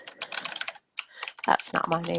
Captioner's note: keyboard keys clacking